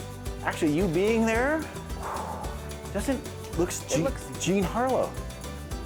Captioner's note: exhaling sharply